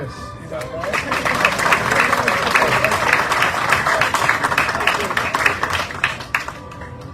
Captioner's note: audience cheering, applauding